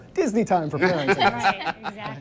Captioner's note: laughs